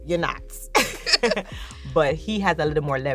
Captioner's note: both laughing